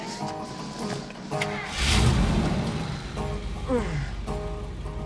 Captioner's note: engine starts